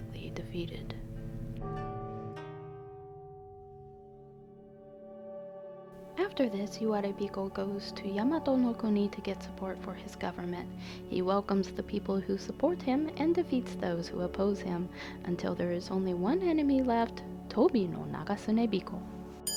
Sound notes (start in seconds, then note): 2.4 temple bell